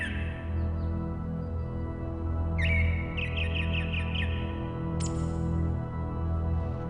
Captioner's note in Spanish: Trino de aves